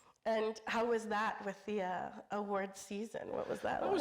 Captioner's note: none